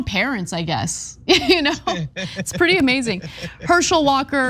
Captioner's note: laugh